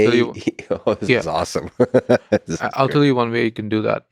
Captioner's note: laughs